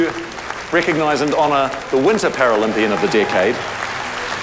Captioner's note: cheering, applause